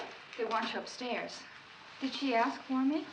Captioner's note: none